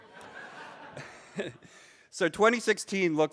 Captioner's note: audience laughs